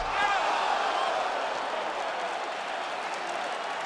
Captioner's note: crowd gasps